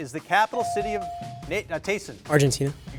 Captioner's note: bell chiming